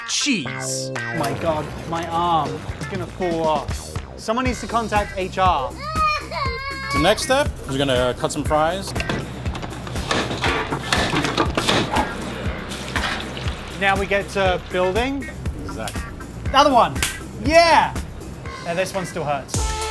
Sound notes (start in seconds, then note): 5.7 baby wailing; 7.7 machinery clanking; 9.3 sizzling; 19.6 upbeat music